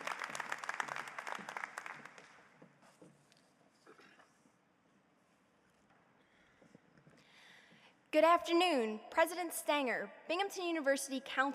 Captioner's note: applause